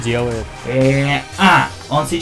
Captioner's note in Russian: звук мыслительного процесса